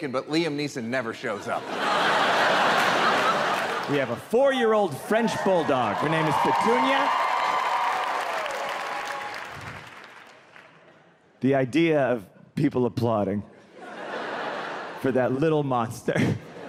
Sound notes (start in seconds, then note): 1.3 audience laughing; 7.0 audience cheering